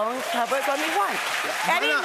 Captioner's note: cheers and applause